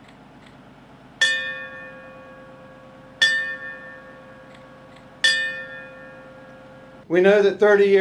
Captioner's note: bell ringing